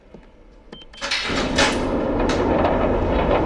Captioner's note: beeping